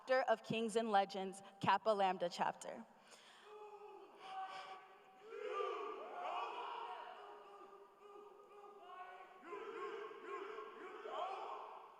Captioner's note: chanting